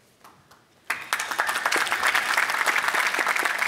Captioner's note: applause